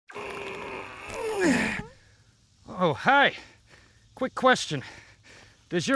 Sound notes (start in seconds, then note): 0.1 grunting